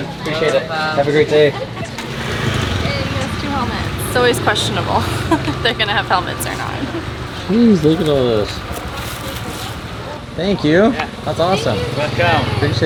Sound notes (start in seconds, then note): 5.0 laughter; 7.1 giggles